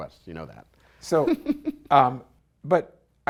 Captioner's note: light laughter